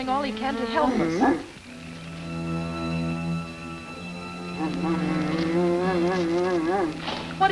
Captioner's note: dramatic music; devil growling